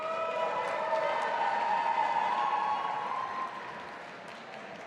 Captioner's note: audience applauding